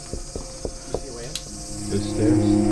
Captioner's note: knocking on mirror